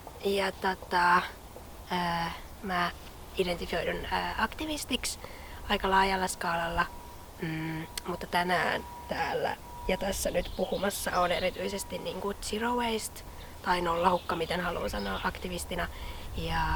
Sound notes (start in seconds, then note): 12.0 little birds singing